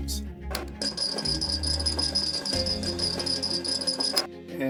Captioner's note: morse code beeping